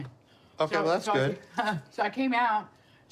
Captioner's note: laughs